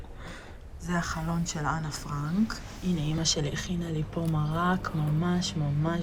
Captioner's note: speaking in foreign language